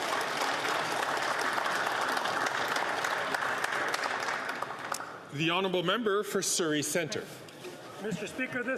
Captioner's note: some Applause